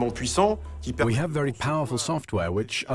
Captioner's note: voiceover